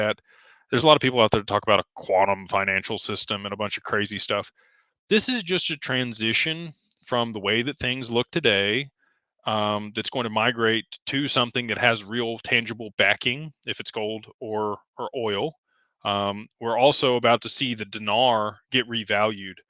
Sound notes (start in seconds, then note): none